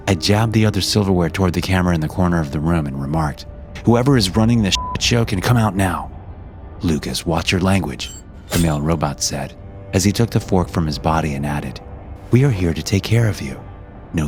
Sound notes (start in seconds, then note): 4.7 beep